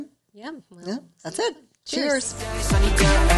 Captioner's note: faintly speaking